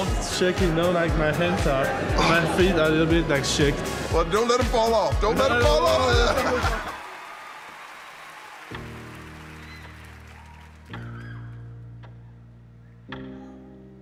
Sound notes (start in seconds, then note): 5.9 cheering